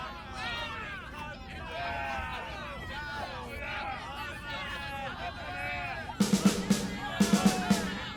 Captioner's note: mix of adoring and angry crowd noises; snare drum fill